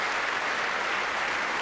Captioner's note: applause